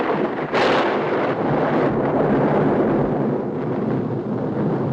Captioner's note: thunderclap crashing